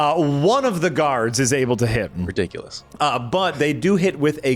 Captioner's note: none